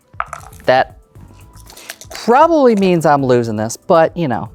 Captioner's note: dice clattering in cup; dice rattling, then rolling